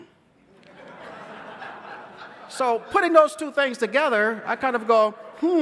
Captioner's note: laughter